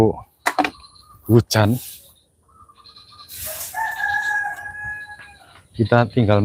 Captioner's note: bird Sound; rooster Crowing